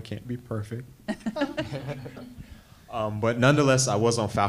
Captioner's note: panel laughs